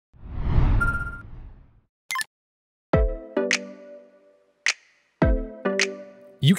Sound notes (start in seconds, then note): 0.2 air whooshing; 0.8 computer beeps; 3.1 light music